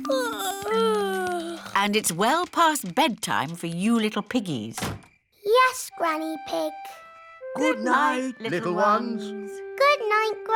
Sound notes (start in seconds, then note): 0.0 yawning